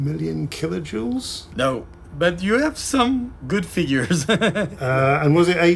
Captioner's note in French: rire nul